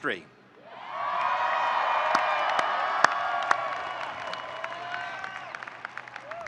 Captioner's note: audience cheering and applauding